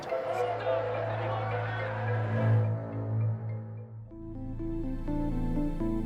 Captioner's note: protestors shouting; soft tense music